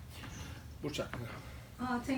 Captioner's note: non-english speech